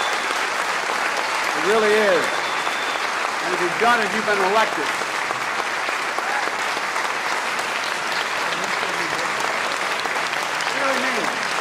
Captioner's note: applause